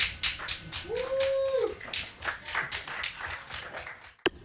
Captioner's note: applause and cheering; Aplauso y vítores